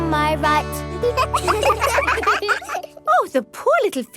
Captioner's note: children laugh